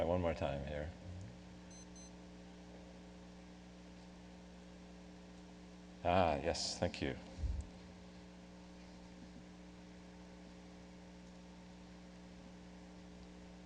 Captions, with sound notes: I'll try one more time here. (beeping) Ah ha, yes, thank you.